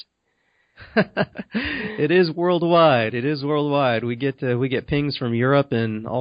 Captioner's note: chuckles